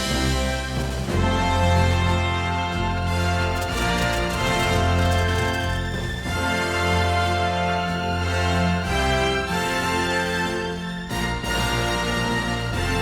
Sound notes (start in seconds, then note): 3.6 jet engine roaring; 10.1 upbeat music